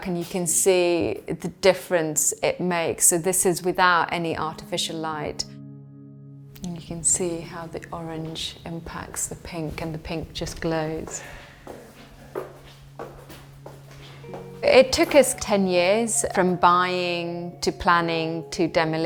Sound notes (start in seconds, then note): 11.8 footsteps thudding